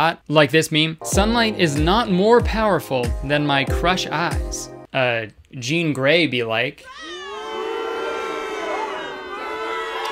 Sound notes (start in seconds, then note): 6.9 booing